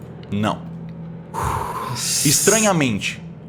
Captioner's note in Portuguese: suspiro